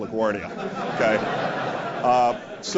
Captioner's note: laugh